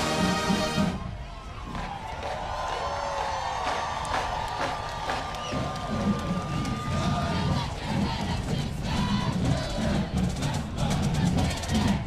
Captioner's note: cheers and applause